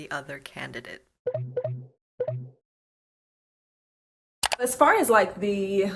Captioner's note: buttons blipping